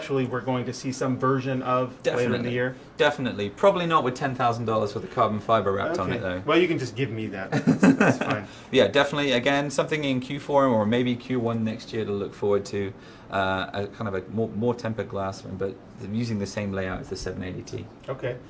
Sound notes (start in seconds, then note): 7.4 laughs